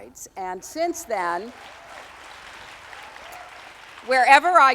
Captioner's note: audience applauding